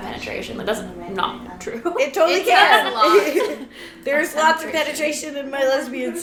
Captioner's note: laughs